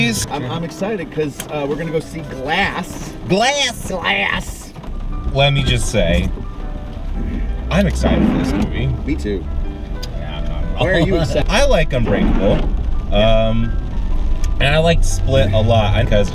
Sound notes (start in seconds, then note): 8.5 windshield wiper sound